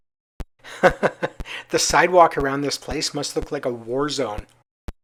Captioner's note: laughs